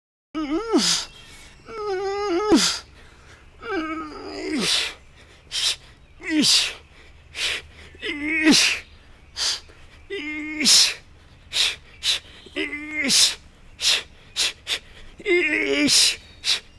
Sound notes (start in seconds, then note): 0.4 groans and exhales; 5.8 pants; 8.0 groans and exhales; 11.3 pants; 12.5 groans; 14.4 pants; 15.2 groans; 16.6 pants